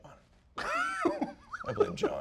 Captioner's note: laughs